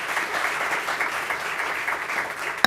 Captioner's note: applause